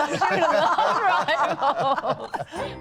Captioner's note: laughter